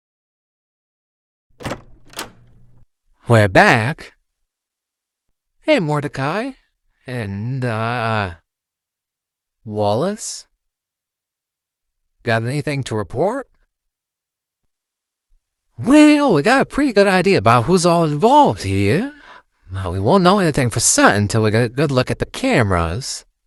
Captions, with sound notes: [Door opens] We're back. Hey, Mordecai, and, uh... Wallace... Got anything to report? Well, we got a pretty good idea about who's all involved here, but we won't know anythin' for certain 'til we can get a good look at the cameras.